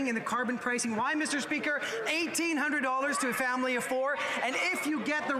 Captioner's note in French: voix de l'interprète